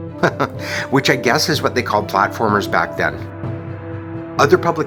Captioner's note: chuckles